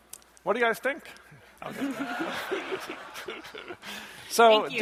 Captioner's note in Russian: смех